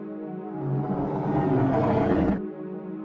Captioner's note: roar